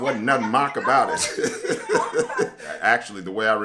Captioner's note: laughs